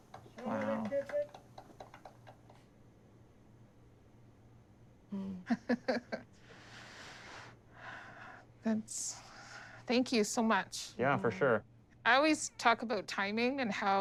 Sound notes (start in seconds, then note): 5.4 chuckling; 7.8 deep breath, sigh